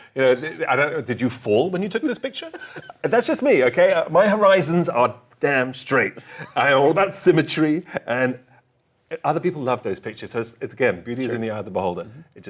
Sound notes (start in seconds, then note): 1.9 laughs